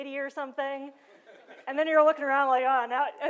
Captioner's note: laughter